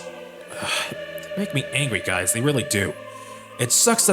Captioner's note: sigh